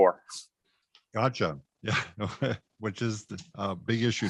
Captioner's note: chuckles